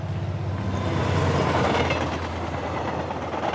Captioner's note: trains passing